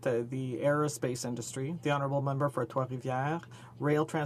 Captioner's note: speaking french